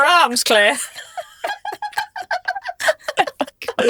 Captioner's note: group laughs